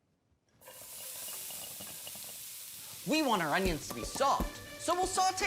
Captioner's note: sizzling